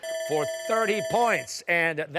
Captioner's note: timer